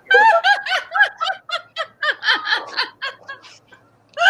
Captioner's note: all laugh